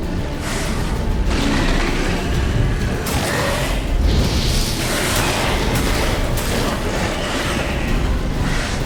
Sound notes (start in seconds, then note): 0.3 hound hisses, roars; 3.6 flames whoosh; 6.7 hound snarls